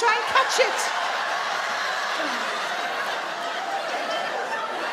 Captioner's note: audience laugh